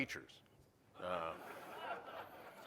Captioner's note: laughter